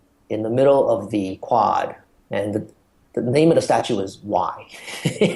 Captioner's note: laughs